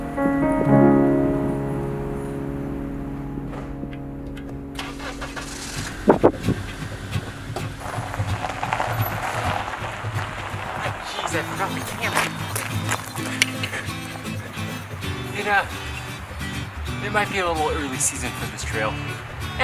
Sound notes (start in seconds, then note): 4.8 engine starting; 8.1 guitar music